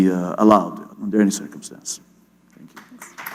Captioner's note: applause